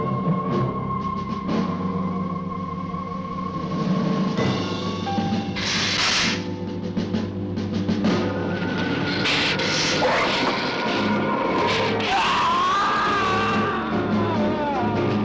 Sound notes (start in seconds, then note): 5.5 hissing; 10.5 roaring; 11.5 screaming